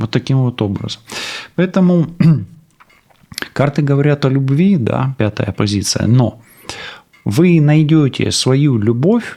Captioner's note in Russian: откашливается